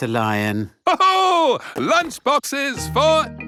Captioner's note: laughs